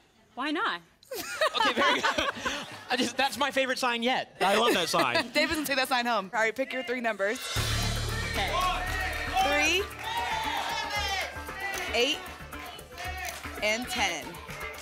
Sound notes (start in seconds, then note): 1.0 laughter; 10.4 audience shouting numbers